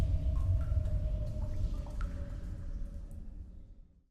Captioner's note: cave noises